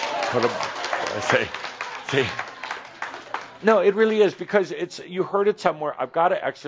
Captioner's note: audience applause